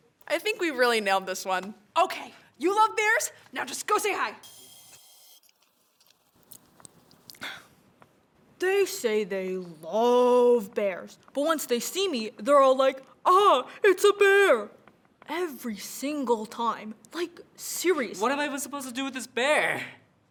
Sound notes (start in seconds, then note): 4.4 sipping noises